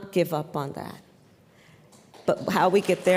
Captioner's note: applause